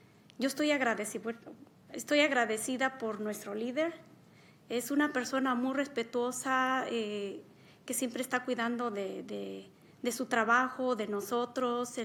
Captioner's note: speaking spanish